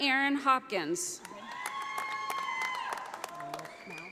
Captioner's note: audience applauding